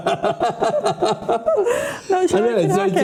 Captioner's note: laughing